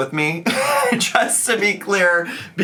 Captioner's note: laughing